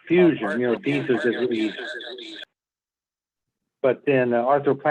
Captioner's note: microphone distortion